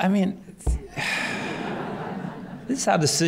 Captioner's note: laughter